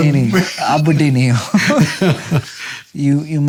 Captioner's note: laughter